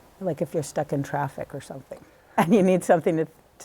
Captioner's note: laughter